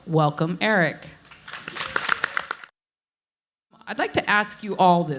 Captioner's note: audience applauds